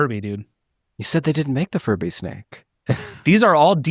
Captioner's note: laughs